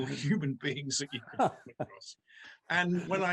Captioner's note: Micheal Scott laughs